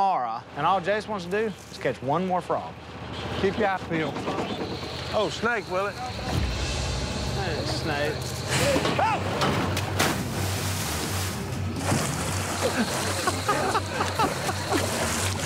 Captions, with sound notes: and all Jase wants to do is catch one more from. [screaming] [splashing] [laughter]